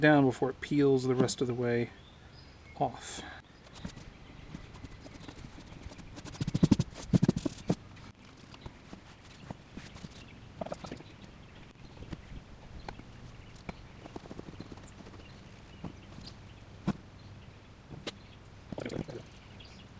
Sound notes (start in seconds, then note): 6.3 sounds of spraying and scrubbing